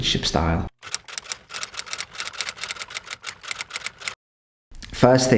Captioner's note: typewriter clunking